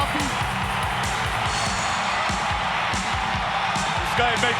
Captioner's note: crowd cheering; upbeat music